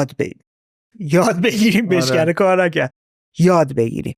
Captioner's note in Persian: خنده